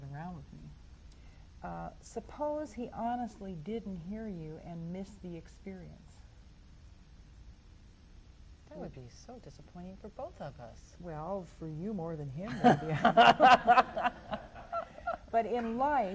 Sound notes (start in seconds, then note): 12.5 laughs; 13.0 audience laughs